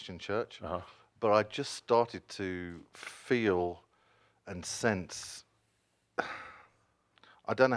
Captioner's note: he sighs